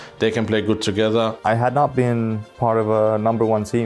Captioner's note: none